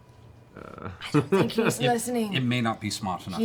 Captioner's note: whispers